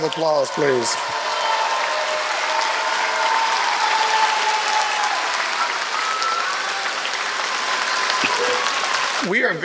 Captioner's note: applause